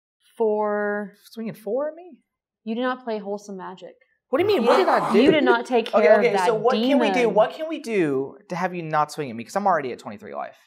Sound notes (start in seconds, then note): 4.4 scoffs; 4.4 generalized squabbling